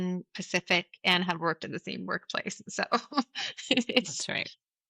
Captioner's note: laughs